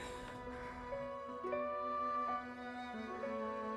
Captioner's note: Susan sighs